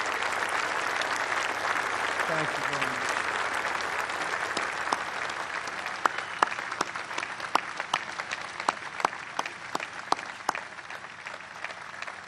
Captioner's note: applause